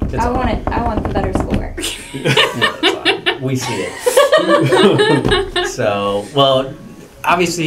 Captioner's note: laugh